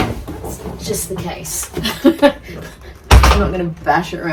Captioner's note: loud banging; laughs; loud thud